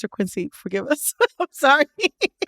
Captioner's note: laughter